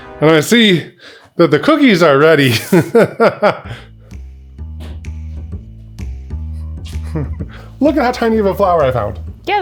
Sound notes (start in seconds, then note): 2.5 laughs; 3.6 upbeat music